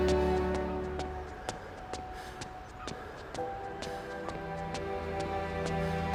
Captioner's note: runner panting; footsteps thudding